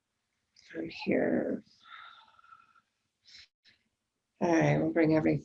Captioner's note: breathing deeply